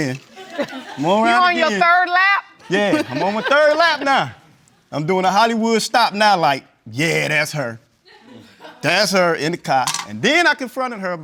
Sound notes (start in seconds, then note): 2.7 audience laughing